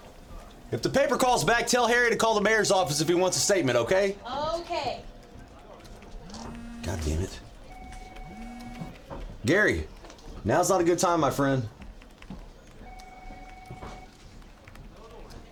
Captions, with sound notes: the mayor's office. If he wants a statement, okay? - Okay. (phone buzzes) - Goddamn it. Gary, now's not a good time, my friend.